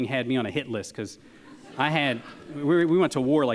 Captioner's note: audience laughs